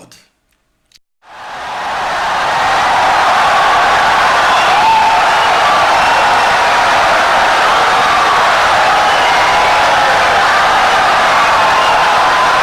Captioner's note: wild applause and cheering for 17 seconds